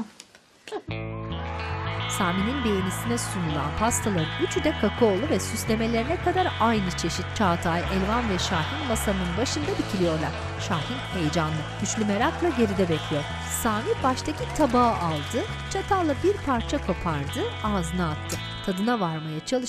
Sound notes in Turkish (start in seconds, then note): 1.1 Fonda alkış sesleri; 12.8 Fonda alkış sesleri